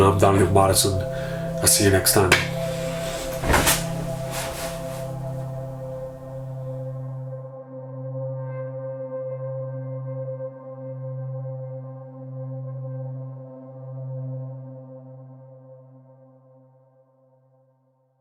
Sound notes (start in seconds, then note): 2.1 hands clapping; 3.4 thudding; 5.2 dreamy music